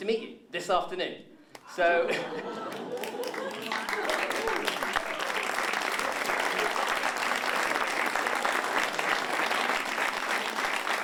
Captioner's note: applause